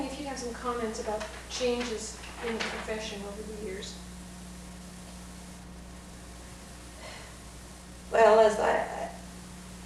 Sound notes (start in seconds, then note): 7.0 sighs